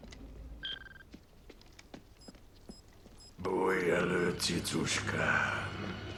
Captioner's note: beeping